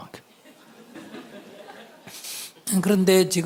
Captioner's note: audience laughter